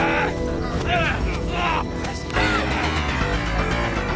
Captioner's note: men groaning